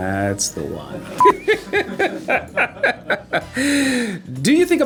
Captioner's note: laughing